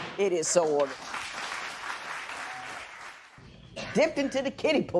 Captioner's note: applause